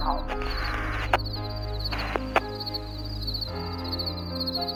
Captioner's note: crickets chirping